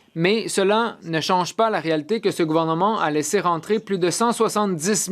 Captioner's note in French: voix de l'interprète